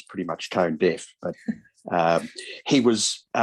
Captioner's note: chuckles